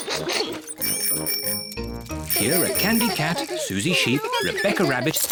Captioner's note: giggles; bicycle bells tinkle